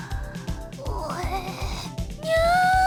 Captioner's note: gag